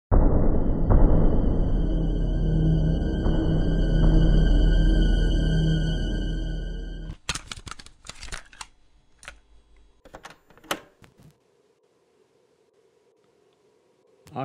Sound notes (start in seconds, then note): 0.2 ominous string music; 7.0 tape cassette opens